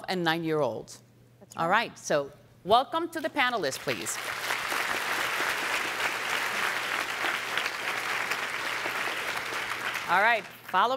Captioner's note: applause